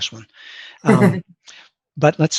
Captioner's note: laughs